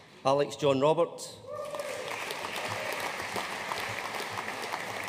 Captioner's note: audience applauding